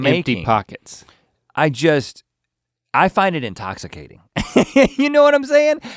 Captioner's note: laughs